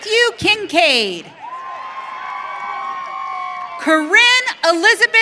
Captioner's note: audience cheering